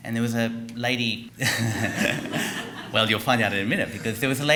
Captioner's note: laughter